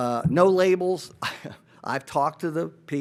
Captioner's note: chuckles